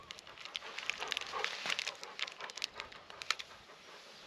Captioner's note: Elvis barks